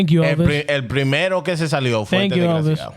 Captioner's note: speaking In Foreign Language